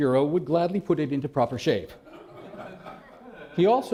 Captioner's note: laughter